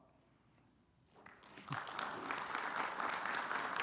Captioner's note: audience clapping